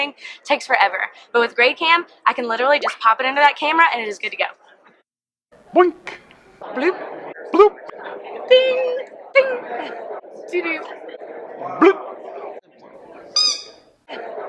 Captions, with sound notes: it takes forever. But with GradeCam I can literally just pop it under that camera, and it is good to go. Boink. Bloop. Bloop. Ding. Ding. Do-doo. Bloop. [Squeak]